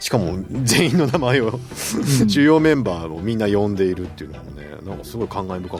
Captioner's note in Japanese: 笑い